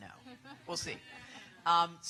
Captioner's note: laughter